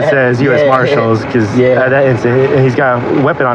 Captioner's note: lalaughihingng